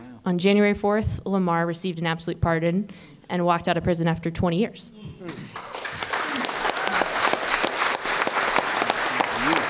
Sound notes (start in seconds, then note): 5.5 applause